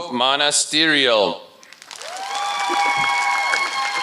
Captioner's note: applause